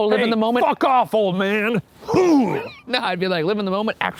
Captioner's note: grunts